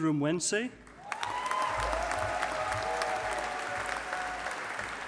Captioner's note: audience applauding